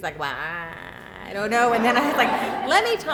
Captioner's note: laughter